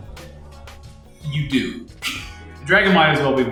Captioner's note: laughs